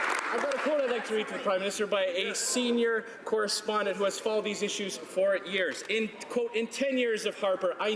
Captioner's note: some Applause